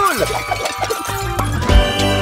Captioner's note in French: cris et fracas de verre